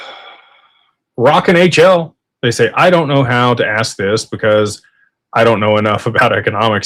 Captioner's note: sighs